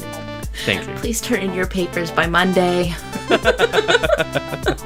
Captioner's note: laughs